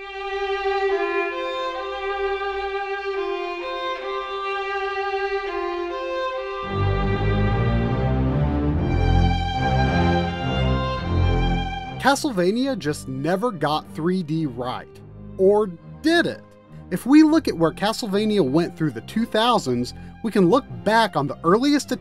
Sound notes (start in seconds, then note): 4.6 game audio